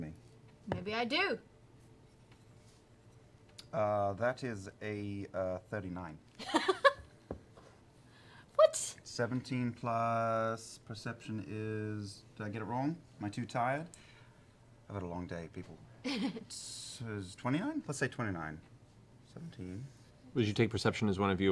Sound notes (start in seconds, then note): 7.0 laughs